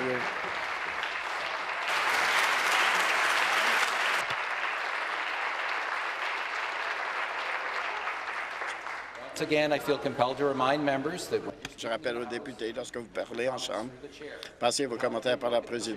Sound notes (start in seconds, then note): 3.4 applause